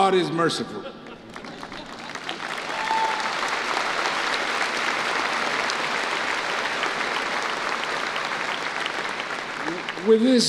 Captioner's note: applause